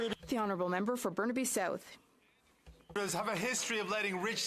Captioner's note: speaking French